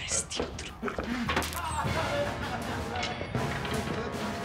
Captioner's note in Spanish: Gritos